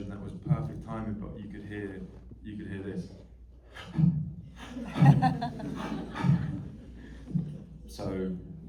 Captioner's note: heavy breathing